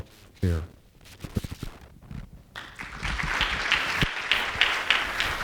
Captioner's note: applause